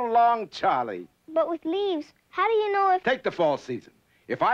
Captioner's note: none